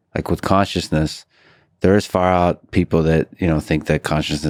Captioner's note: none